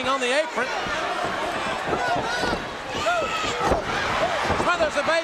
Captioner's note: audience cheering